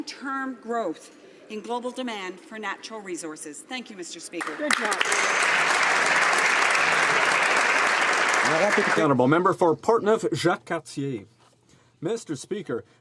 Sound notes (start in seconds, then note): 7.0 applause; 11.8 speaking French